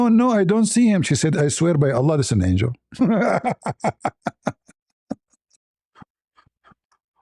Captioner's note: laughter